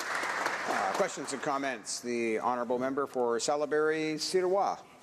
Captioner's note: applause